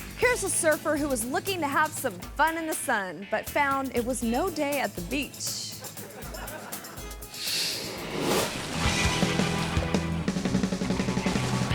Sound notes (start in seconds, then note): 5.9 audience laughing; 9.0 surfing music